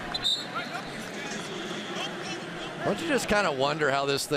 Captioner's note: whistle